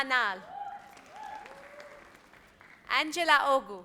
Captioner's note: audience applauds